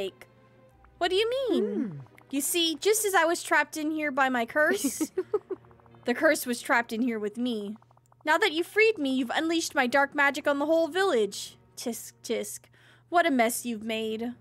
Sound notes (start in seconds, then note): 4.6 Mother Gothel Laughs